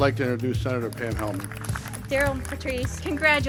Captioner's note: audience applauding